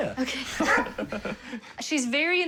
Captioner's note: Leia barks